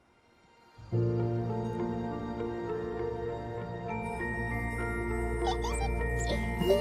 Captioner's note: gentle ethereal music; Bingo and Floppy giggling